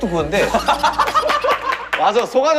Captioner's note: hahaha